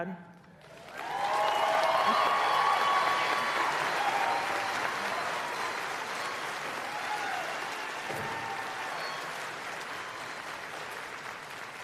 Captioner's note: applause